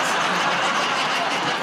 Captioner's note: laughter